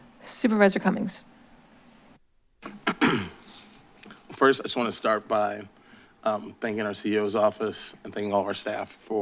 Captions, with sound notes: - Supervisor Cummings. [clears throat] First, I just want to start by thanking our CEO's office and thanking all of our staff